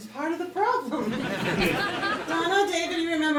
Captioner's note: audience laughing